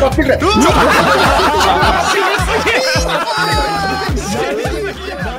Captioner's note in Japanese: 爆笑